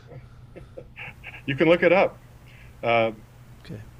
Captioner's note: laughs